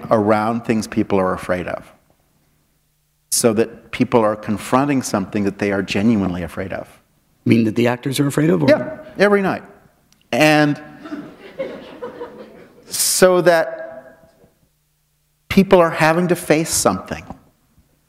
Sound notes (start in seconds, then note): 11.0 laughter